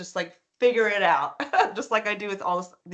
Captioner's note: chuckling